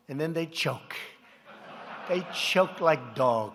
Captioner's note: laughter